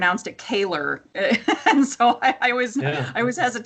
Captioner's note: laughs